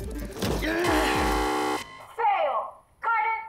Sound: buzzer

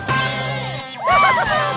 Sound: cheering

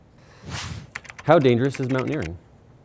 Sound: air whooshing; keyboard clicking

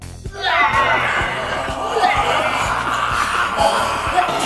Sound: zombie moans

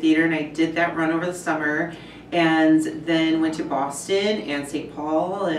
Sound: none

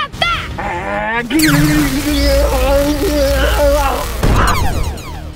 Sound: laser fires

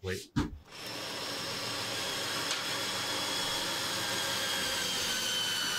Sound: drill squealing loudly

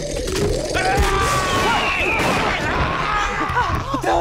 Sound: animal growling; gunshots, ray screaming

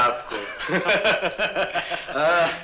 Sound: laughs

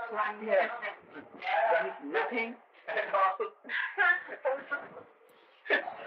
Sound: laughter

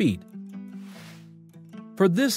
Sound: cheerful music; screen graphics whooshing

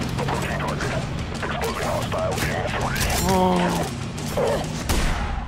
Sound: static

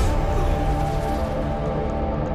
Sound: gunshot

